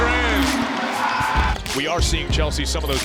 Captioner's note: cheering